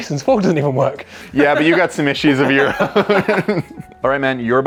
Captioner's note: laughing